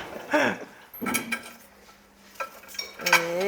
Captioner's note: clanking